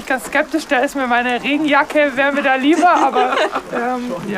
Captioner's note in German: Lachen